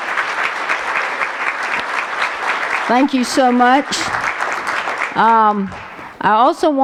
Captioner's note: applause